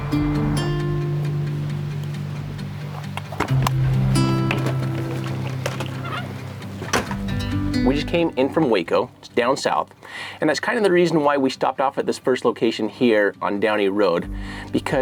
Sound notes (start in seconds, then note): 0.1 gentle guitar music; 3.6 door creaking